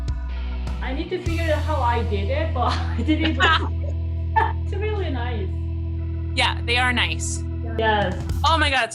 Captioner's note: laughing